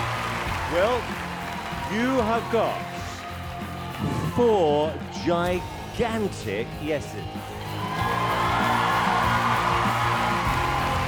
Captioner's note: cheering